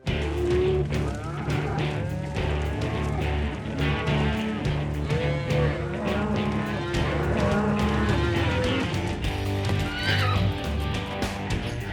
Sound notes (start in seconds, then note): 6.2 cows moo; 9.4 horse neighs